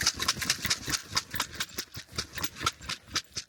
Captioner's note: sound of shaking rice